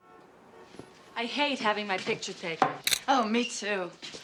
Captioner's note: shutter clicks